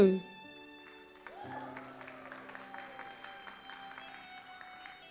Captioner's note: audience applauds